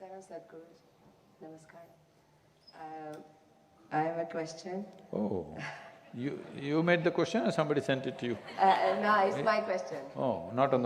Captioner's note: few laugh